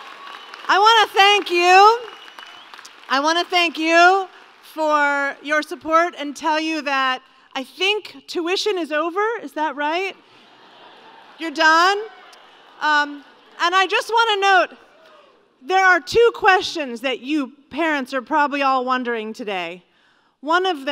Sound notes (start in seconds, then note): 10.2 laugher